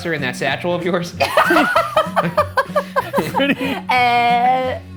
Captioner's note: laughing